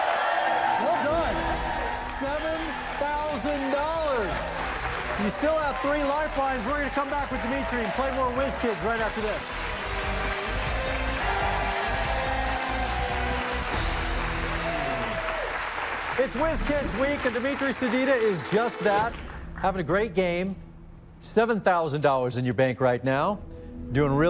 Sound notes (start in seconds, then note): 0.1 cheers and applause; 11.3 dramatic music; 15.5 cheers and applause